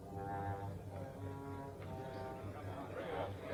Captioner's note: all murmuring